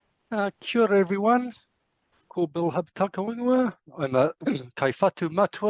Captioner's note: speaking in foreign language